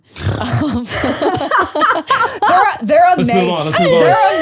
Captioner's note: all laugh